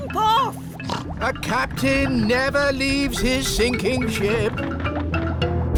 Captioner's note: snorts